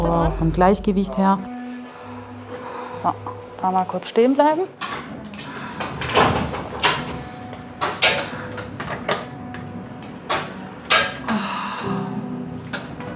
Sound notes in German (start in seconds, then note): 5.8 Klackern; 11.1 Ächzen